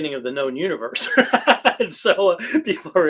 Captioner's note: laughs